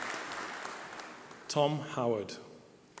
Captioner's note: applause